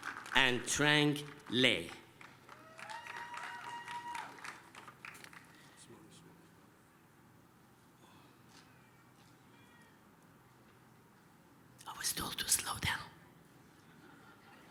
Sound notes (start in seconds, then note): 2.2 applause, cheering